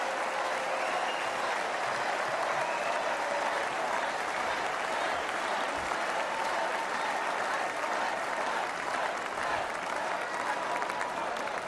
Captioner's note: applause